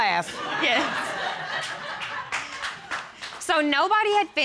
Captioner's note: audience laughing, applauding; laughing